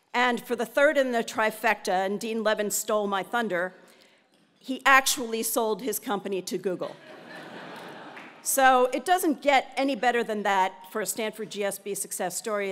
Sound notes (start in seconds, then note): 6.9 laugh